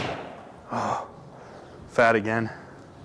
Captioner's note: breathing heavily